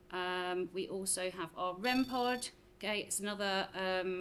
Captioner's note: REM pod chirping